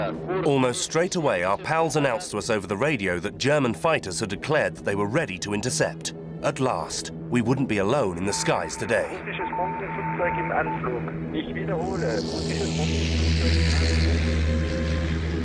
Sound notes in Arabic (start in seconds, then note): 9.2 الصوت المنطوق بالروسية